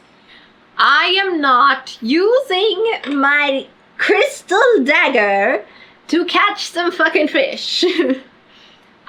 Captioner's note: laughs